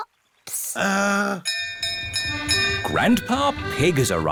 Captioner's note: bell rings